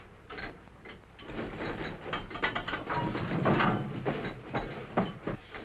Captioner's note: clinking